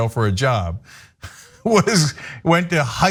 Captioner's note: laugh